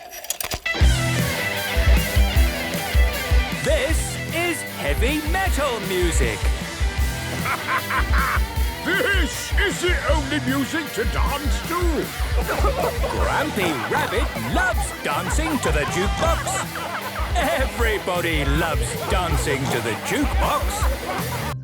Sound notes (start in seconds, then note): 0.1 heavy metal music plays; 3.8 shouting; 13.7 shouting